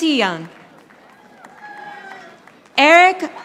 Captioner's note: audience applauding